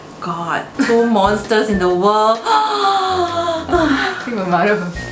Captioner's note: gasps